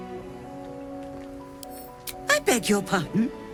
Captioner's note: click